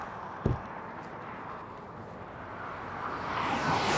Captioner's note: door thuds; traffic roaring